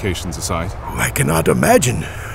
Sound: condescending

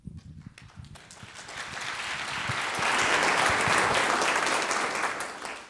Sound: audience applauds

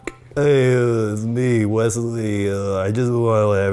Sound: slurrs

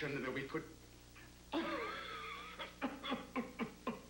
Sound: hacking cough

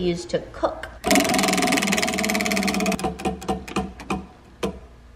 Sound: wheel turning

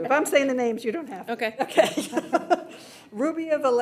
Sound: laughs

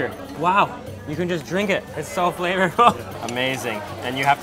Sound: laughs

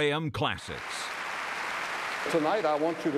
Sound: applause

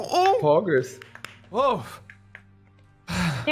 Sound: clap

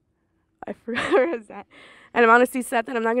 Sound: laughs

